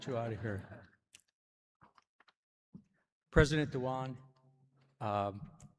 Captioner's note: laughter